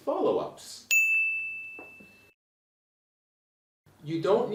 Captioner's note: bell rings